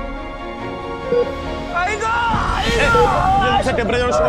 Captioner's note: machine beeps